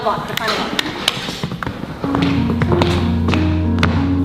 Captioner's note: door opens